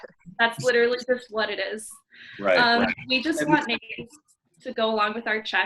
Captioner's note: mic cut out